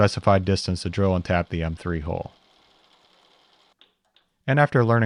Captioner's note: drill whirring